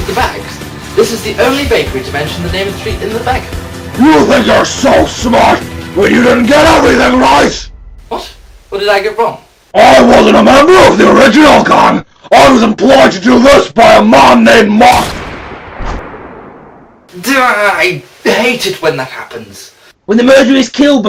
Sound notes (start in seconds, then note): 14.8 gunshot